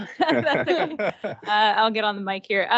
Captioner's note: laughing